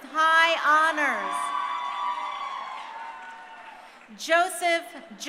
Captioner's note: crowd cheering